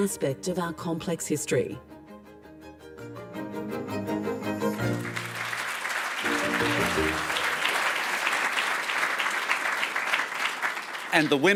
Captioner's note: applause